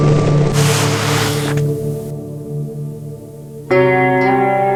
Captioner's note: jacket rustling; footsteps scrunching